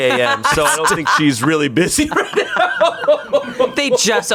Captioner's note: laughs